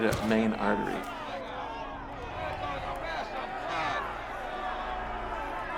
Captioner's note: people screaming and shouting